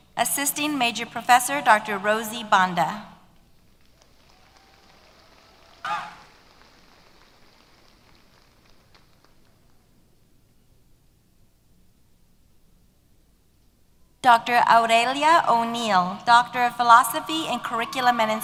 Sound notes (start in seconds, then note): 3.6 applause